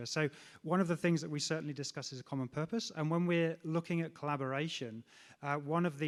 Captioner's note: none